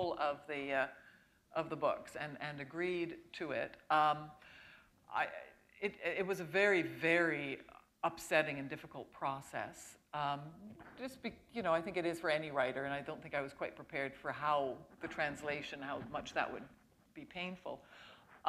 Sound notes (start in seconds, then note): none